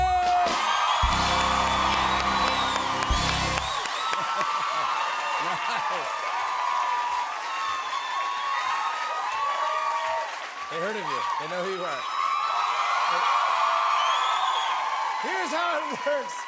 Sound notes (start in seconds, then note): 0.3 cheers and applause; 3.9 laughs; 12.2 cheers and applause continue